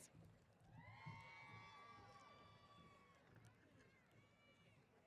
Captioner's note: applause & Cheers